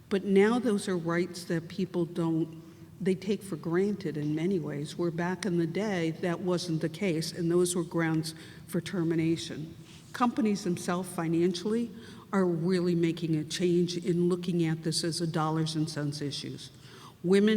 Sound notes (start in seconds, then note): none